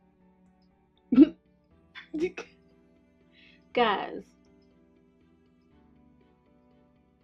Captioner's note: she laughs